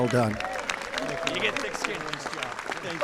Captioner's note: applause